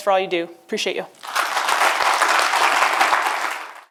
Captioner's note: applause